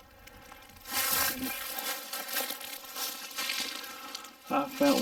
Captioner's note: leaves rustling